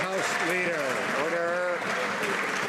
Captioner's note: some Applause